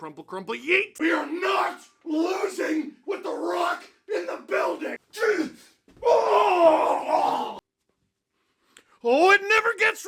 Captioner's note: fighting noises